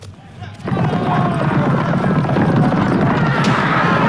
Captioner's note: men clamoring